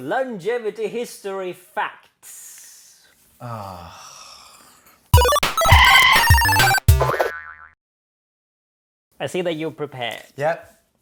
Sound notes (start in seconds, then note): 3.5 depressed sigh